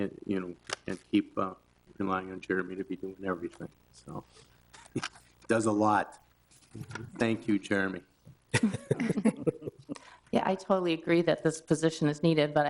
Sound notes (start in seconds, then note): 8.5 all chuckle